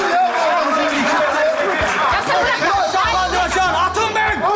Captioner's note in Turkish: bağrışmalar